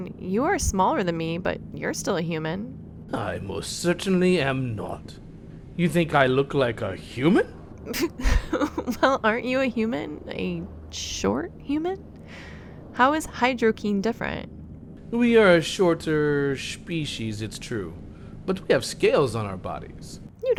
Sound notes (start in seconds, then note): 7.9 laughing